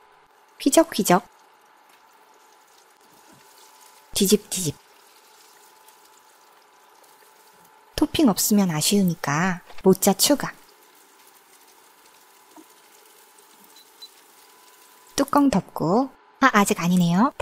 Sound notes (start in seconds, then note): 10.6 sizzle